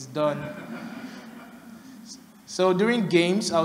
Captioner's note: laughter